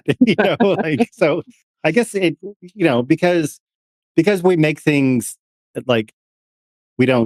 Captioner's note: laughing